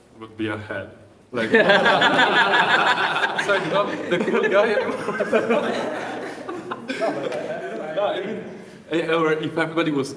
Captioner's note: laughter